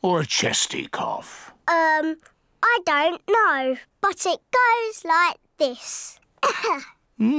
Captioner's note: coughs